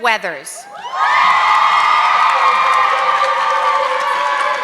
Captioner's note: audience clapping